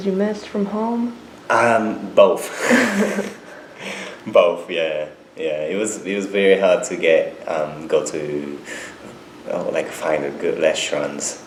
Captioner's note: both laugh